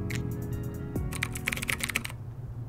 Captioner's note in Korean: 타자 소리